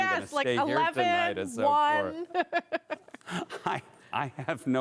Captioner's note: laughter